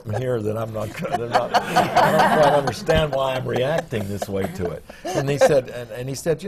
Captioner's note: laughter